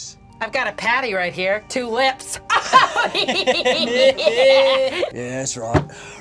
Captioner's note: laughing